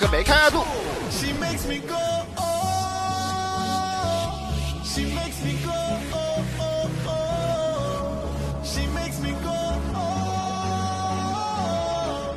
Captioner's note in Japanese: 効果音